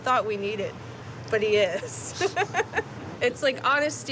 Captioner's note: laughing